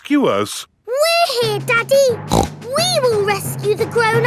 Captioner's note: snorts